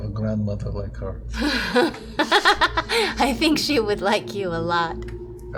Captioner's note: laughs